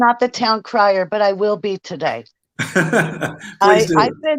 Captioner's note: laughs